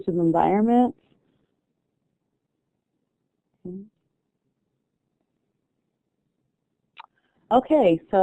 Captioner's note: silence